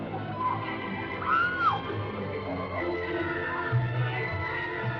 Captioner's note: everybody screaming